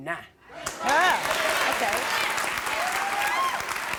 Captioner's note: crowd cheering